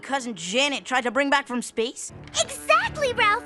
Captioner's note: none